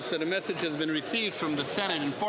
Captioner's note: speaking French